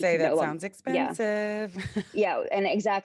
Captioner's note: chuckles